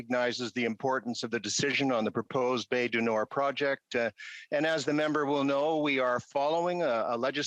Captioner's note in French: voix de l'interprète